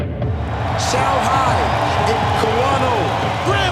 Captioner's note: crowd cheering